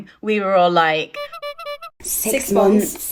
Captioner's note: horn honking